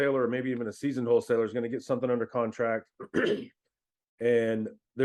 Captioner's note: clears throat